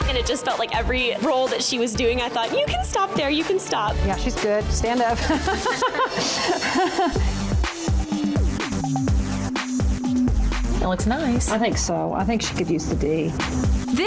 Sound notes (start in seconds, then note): 5.1 laughing; 7.3 energetic music